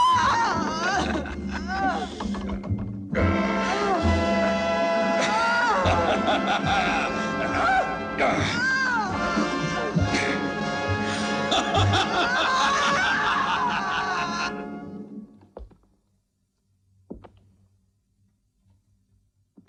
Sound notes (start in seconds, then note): 9.3 menacing music; 11.4 Travis laughing